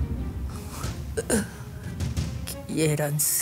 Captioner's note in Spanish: hablando con dificultad